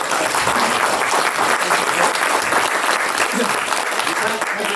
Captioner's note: audience applauding